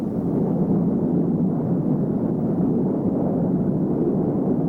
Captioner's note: missile roaring